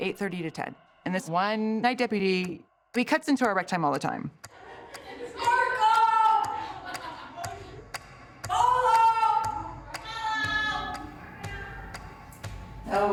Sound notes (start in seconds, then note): 8.0 women shouting; 9.4 clock ticking